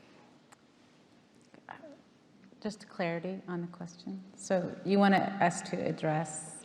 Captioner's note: none